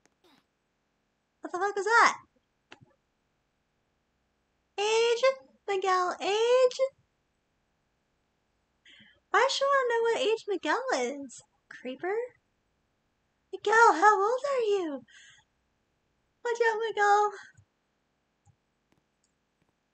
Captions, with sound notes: what the fuck was that?! "age, miguel age" why's she wanna know what age miguel is? creeper... [in creepy voice] miguel, how old are you? watch out, miguel...